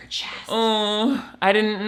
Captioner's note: moans